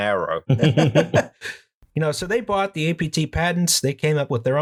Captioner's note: laughter